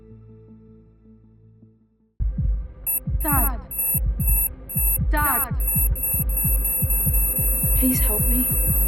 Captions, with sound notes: (heart pounding) (dramatic music) (alarm blaring) - Dad! Dad! Please help me.